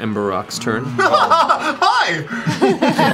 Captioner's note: laughs; laughter